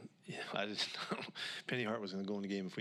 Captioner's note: takes a breath; nervous chuckle